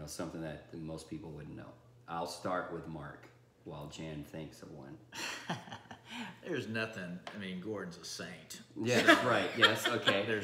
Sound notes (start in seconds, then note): 5.2 laughing